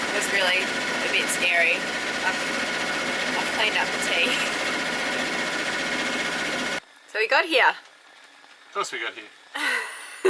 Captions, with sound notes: That's really, a bit scary. I've cleaned up the tea. (motor whirring) So we got here? - Of course, we got here.